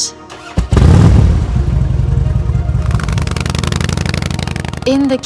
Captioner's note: motorcycle engine revs